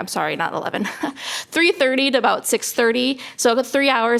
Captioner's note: laughter